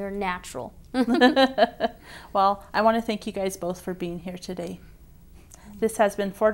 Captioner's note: laugh